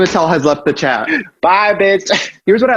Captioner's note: laughs